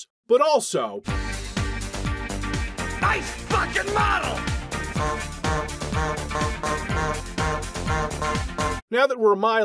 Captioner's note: honk honk